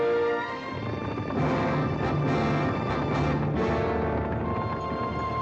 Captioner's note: triumphant music; hooves pounding